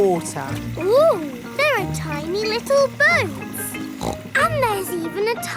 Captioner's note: snorts